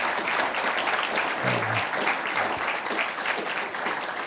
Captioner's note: audience applauding